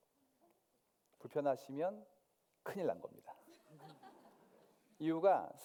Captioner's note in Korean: 웃음